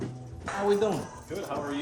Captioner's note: objects jostling